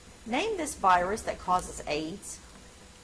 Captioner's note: none